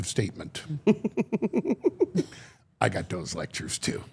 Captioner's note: Steph laughing